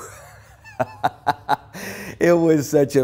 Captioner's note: laughter